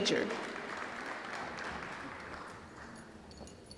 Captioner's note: applause